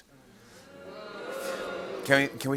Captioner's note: audience booing